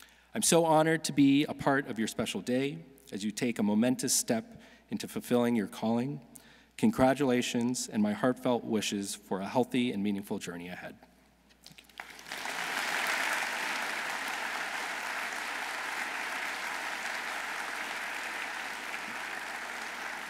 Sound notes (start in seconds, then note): 11.7 audience applauding